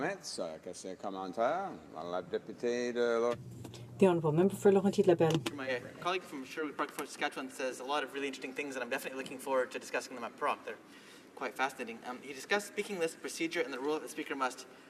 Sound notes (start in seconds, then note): 8.0 speaking in french